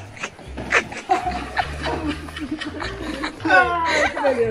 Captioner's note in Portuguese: risadas